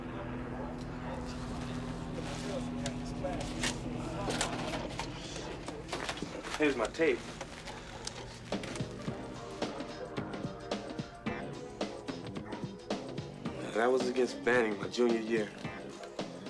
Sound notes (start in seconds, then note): 3.4 helicopter circling